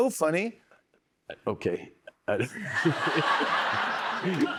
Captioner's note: laughs